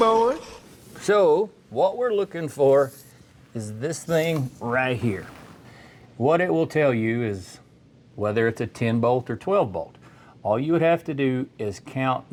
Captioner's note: metal Clanking